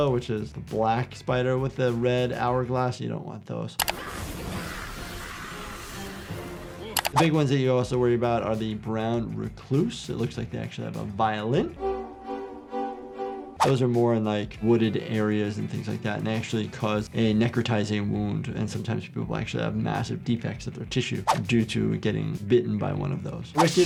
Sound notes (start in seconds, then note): 3.9 intense dramatic music; 4.0 spider screaming; 11.6 suspenseful violin music